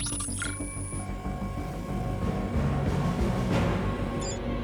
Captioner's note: device beeping; dramatic music continues